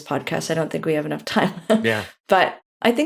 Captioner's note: laughs